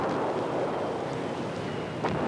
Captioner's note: repeated explosions